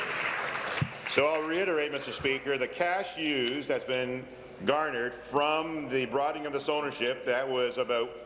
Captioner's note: applause